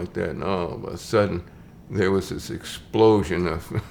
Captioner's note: chuckles